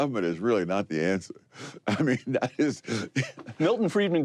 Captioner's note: laughs